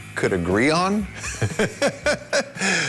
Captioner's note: laughs